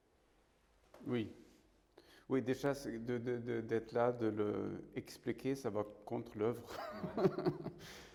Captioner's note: laughs